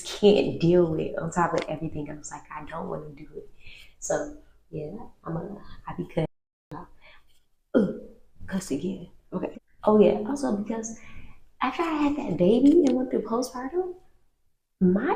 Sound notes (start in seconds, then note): 8.0 gasp